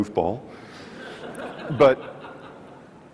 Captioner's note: audience laughs